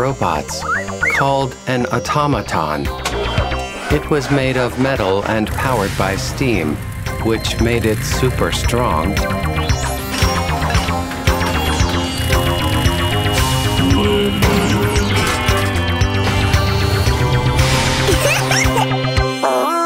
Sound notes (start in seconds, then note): 9.8 mechanical sounds; 18.1 giggling